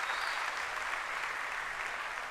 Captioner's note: cheering and applause